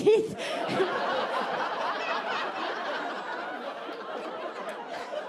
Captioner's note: audience laughing